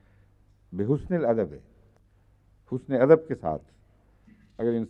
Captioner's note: Arabic